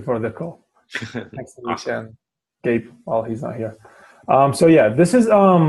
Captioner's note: laugh